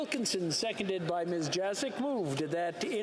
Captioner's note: speaking French